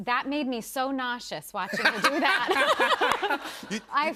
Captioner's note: laughter